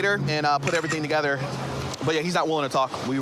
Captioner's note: camera app clicks